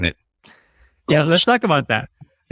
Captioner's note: chuckles